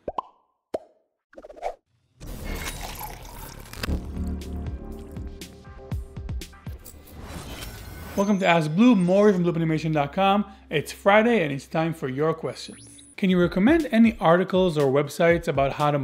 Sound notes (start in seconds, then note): 0.0 popping noises; 2.3 coffee pouring; 5.8 upbeat music